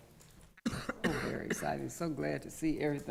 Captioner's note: coughing